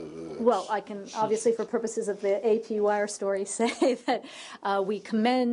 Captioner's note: laughter